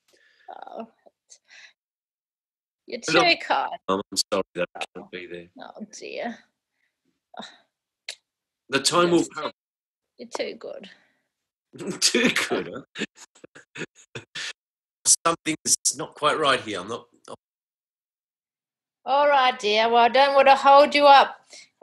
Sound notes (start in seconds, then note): 15.1 video breaking up